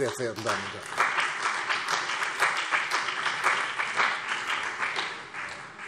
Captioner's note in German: Beifall CDU und BÜNDNIS 90/DIE GRÜNEN